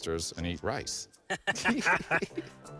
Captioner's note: laughing